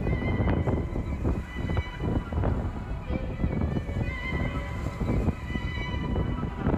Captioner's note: wind gushing; tense music